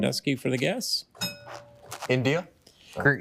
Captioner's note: bell dings